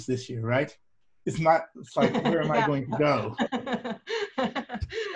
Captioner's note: laughter